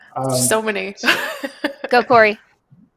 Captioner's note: laughs